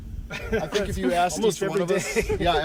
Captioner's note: laughing